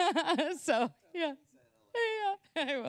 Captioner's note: laughter